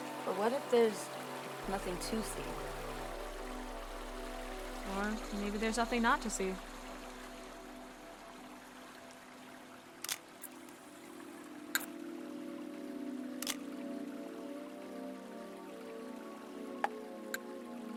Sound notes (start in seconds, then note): 3.5 intense music; 9.8 camera clicks; 12.6 intense music